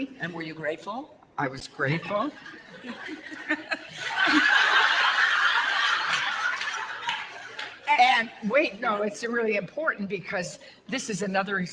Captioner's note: audience laughter